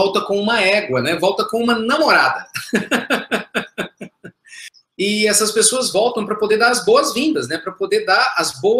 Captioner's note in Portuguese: risos